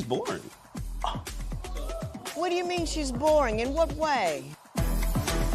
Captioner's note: gasps